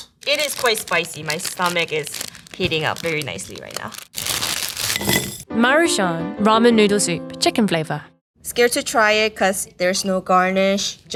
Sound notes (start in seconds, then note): 4.2 packaging crinkling